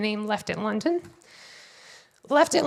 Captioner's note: none